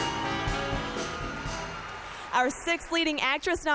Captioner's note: applause